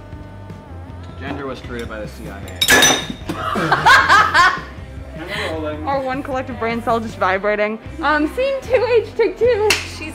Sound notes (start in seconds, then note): 2.4 dishes clinking; 3.2 all laughing